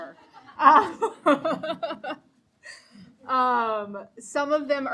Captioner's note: audience laughing